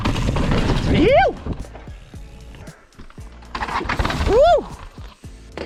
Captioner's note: cheers